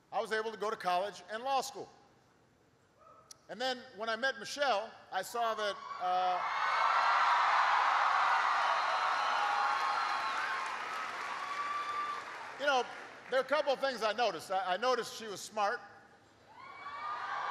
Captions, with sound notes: I was able to go to college and law school. And then when I met Michelle, I saw that -- (applause) --there were a couple of things I noticed. I noticed she was smart. (Applause.)